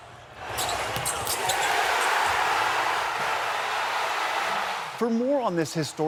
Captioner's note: cheering